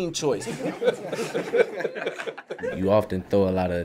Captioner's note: laughter